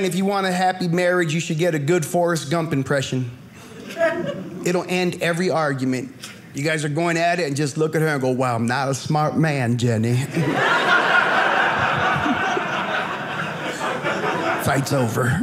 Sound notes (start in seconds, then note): 10.3 audience laughing